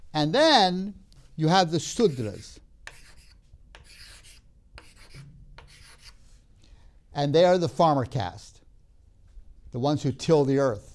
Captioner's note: chalk scraping